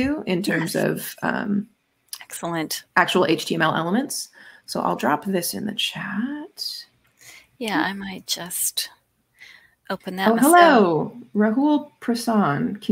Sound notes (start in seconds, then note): none